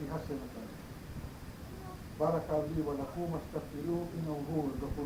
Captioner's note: speaking in foreign language